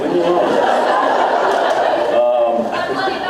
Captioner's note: laughs